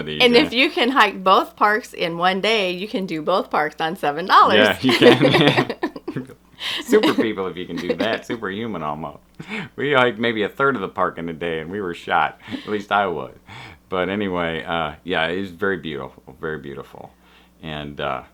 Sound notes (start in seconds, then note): 4.6 laughter